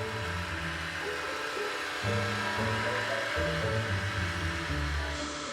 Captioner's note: hedge trimmer humming